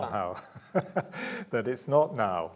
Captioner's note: laughing